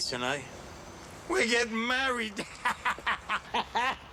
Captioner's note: laughs